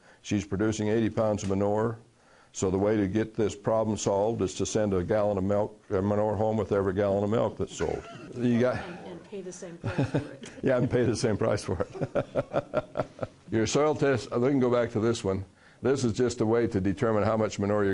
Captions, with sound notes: She's producing 80 pounds of manure so the way to get this problem solved is to send a gallon of milk or manure home with every gallon of milk sold [laughing]. Yeah and have them pay the same price for for it [laughing]. Your soil test and then we'll go back to this one. This is just a way to determine how much manure